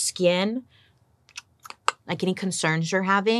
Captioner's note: imitates camera snapping